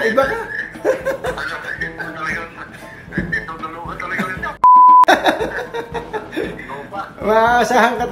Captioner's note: toooot!